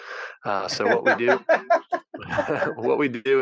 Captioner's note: laughing